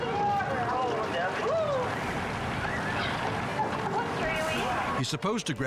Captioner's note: person cheers